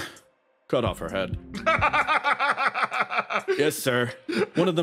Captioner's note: laughs